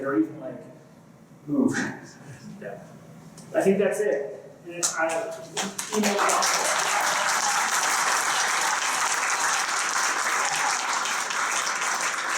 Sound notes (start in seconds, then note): 5.5 applause